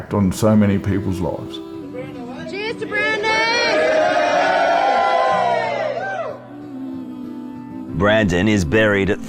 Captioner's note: cheering